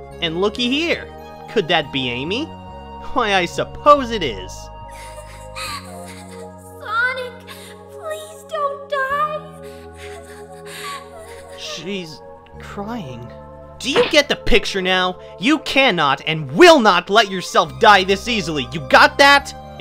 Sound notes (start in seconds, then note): 4.9 crying